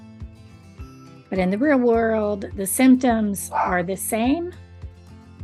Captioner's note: dog barks